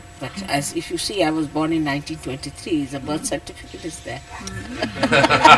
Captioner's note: laughter